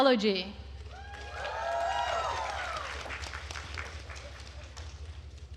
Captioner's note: attendees cheering and applauding